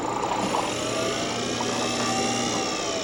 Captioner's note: whirring sound